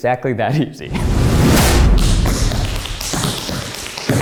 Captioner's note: tapping